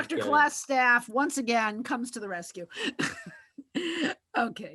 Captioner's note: laughs